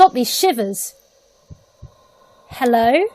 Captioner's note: heartbeat